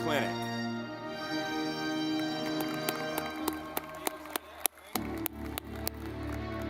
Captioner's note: audience clapping